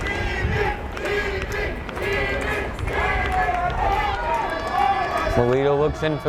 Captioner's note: fans chanting in foreign language